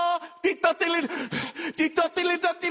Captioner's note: increasing intensity of scat; man panting; continuing intense vocal riffing